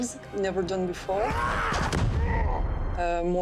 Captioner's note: both grunt